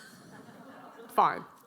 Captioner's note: audience chuckling